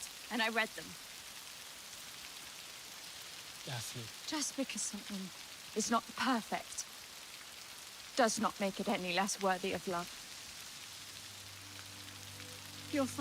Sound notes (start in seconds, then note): 1.1 rain spattering; 10.4 rain spattering; 11.0 gentle music